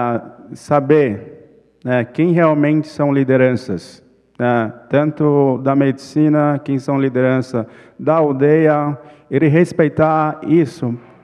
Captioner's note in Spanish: ponente habla en portugués